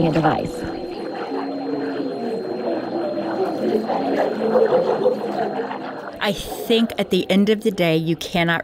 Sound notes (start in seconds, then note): 0.0 tinnitus and coffee shop sounds fade up then out